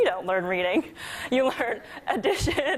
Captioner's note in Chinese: 笑聲